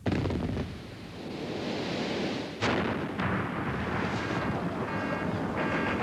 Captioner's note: gunfire - explosions